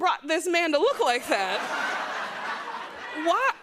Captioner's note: laughter